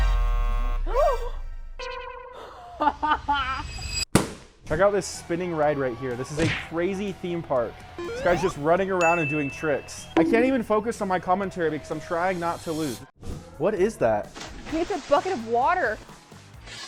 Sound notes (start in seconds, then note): 0.0 buzzer blaring; 0.2 gasps; 2.4 laughs; 4.1 balloon pops